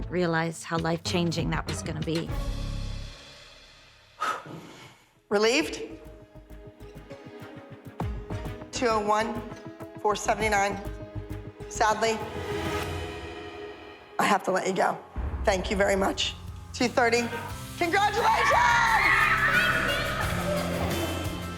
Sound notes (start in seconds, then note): 4.1 exhales; 5.6 soft, tense music playing; 18.0 girls cheering